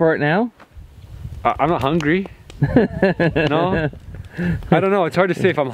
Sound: laughs

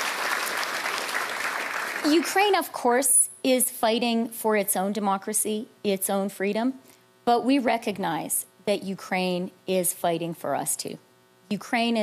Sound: applause

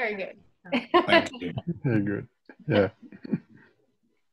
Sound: laughs

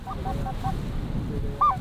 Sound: calling geese

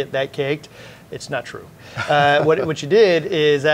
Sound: chuckles

